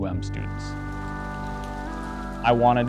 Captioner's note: rain